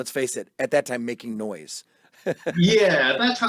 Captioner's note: laughs